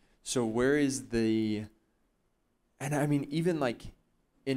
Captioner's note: none